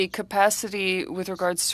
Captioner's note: speaking French